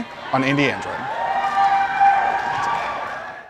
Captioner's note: cheering in background